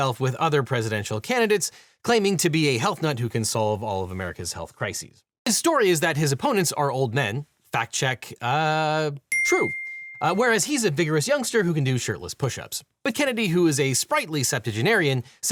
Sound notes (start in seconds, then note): 9.3 check mark dings